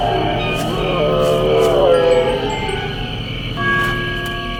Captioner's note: all growling